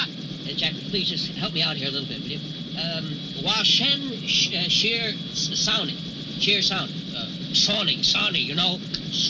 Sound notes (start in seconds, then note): 0.0 shouting in foreign language; 2.7 speaking in foreign language